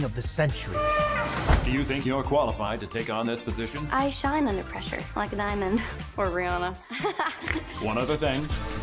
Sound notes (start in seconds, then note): 0.6 elephants trumpet; 6.9 laughs, snorts